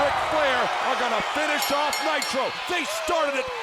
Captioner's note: bell rings